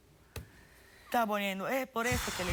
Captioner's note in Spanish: ruido al soplar